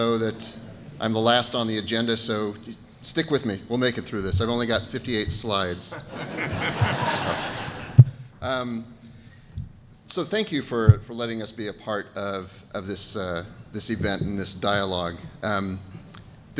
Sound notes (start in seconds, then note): 5.8 laughter